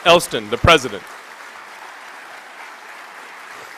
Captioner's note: applause